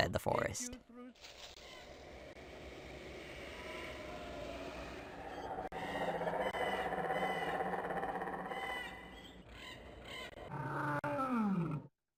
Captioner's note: animal Noises